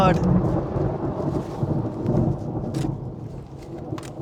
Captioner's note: thunder